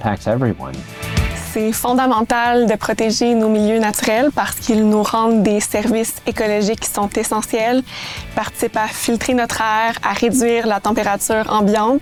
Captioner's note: speaking French